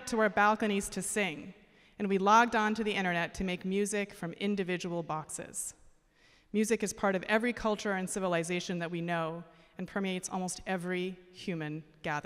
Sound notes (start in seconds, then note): none